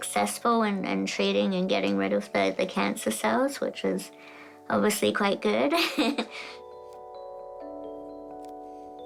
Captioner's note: chuckles